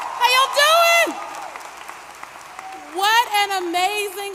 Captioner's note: applause